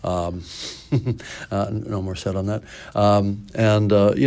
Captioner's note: laughs